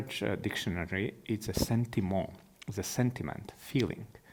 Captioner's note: speaking in foreign language